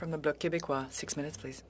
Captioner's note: speaking French